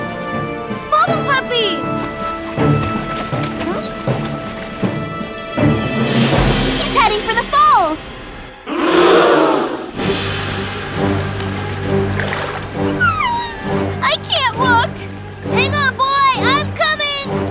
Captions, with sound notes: Bubble puppy! [whimpers] He's heading for the falls! [crowd gasps] [whimpers] -I can't look! -Hang on boy, I'm coming.